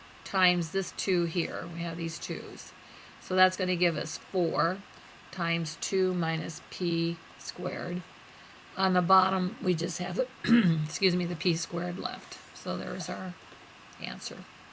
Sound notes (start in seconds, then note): 10.4 clears throat